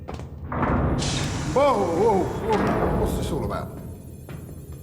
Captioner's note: door opens